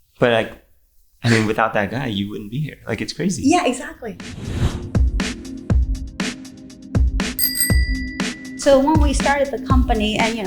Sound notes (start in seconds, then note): 5.0 R&B music; 7.4 bicycle bell dinging